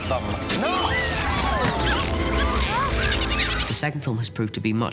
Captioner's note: students screaming